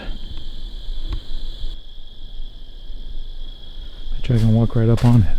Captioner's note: crickets chirping